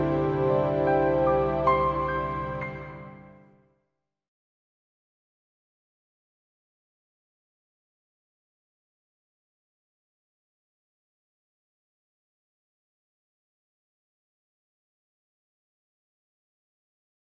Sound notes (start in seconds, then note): 0.0 intro music; 3.5 no audio